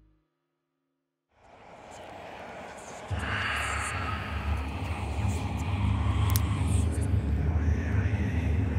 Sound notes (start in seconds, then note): 1.4 windy with ghostly whispering